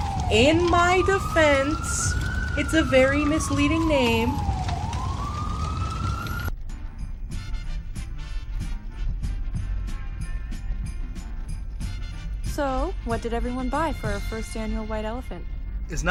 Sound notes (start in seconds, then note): 0.0 police sirens blare from far away as a flame crackles; 4.5 sirens and flame crackling contine